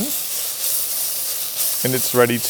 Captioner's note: pan sizzling